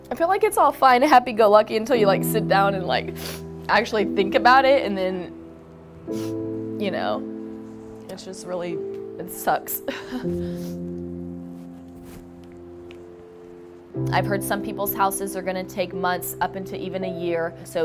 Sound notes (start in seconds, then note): 3.2 sniffs